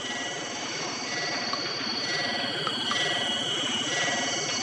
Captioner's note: machine whirring